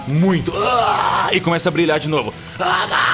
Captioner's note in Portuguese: grunhidos